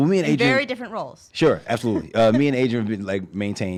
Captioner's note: laughs